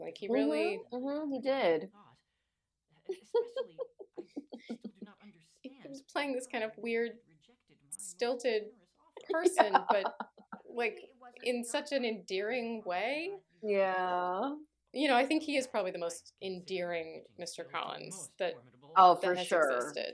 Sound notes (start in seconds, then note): 13.1 laughter